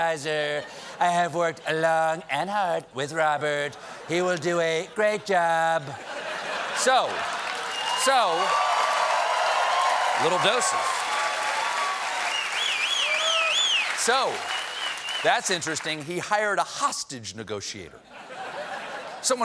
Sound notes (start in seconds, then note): 5.8 laughter; 9.7 cheers and applause